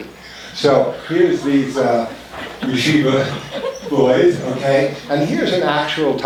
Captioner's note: foreign language spoken